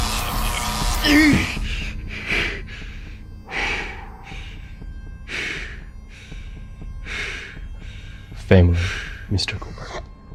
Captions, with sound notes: (heavy breathing) - Family, Mr. Cooper.